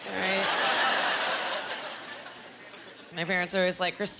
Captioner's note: laughing